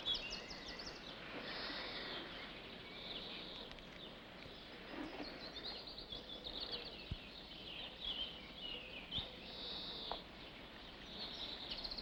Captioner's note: birds chirping